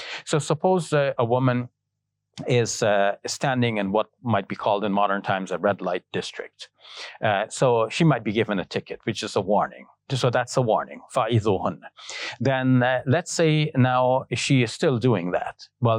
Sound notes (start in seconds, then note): 11.2 speaking Arabic